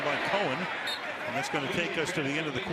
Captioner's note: whistle